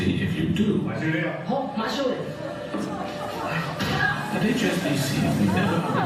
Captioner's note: speaking foreign language